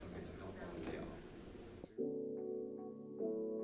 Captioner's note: audience chattering indistinctly; gentle upbeat music